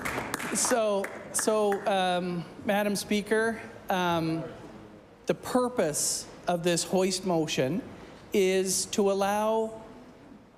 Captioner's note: applause